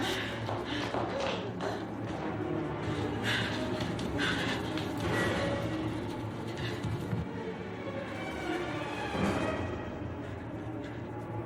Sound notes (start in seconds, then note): 2.7 Louise breathing heavily; 3.1 tense music playing